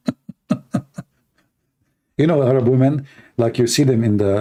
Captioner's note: Ketawa